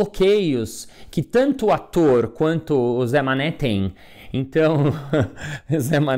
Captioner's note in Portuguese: risos